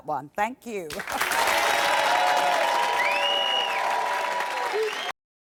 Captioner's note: clapping and cheering